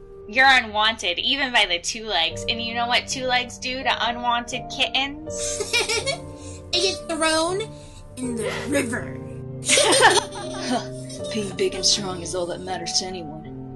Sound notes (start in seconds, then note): 5.4 laughs; 9.6 laughter